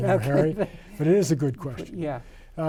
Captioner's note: men laughing